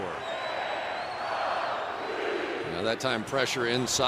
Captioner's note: crowd chanting